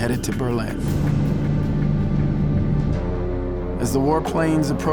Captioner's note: engines droning